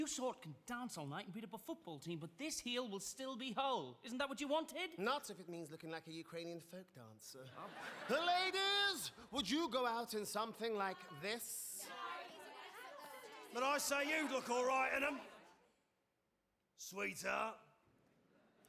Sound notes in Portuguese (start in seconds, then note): 10.8 women chattering